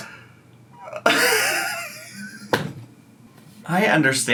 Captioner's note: laughs